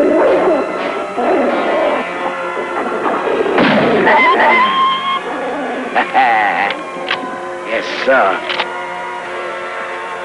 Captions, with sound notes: [gunshot] [wolf yelping in pain] Haha! [gun clicking] Yessuh. [gun clicking]